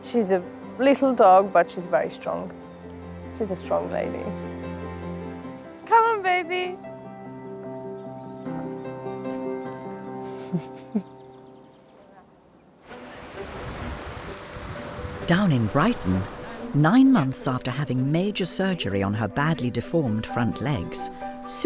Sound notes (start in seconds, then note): 7.2 gentle music; 12.8 waves crashing